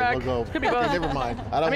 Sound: laughs

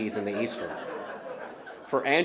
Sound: laughter

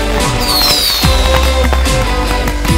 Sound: festive music; fireworks whistling; festive music

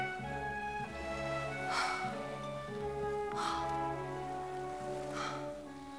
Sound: Margaret breathing heavily

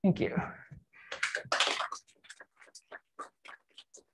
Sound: applause

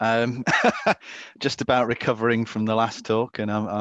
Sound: laughs

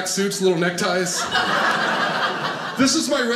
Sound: audience laughing

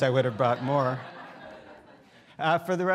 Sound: students laughing

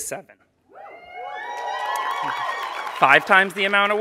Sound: applause

